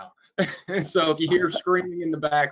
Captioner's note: laughs